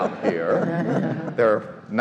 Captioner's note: all laugh